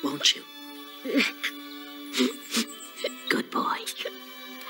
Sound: sniffing

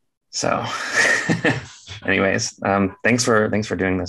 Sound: chuckling

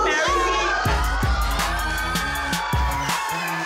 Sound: cheering

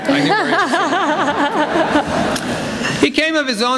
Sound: laughter

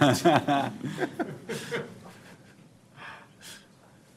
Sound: audience laughing

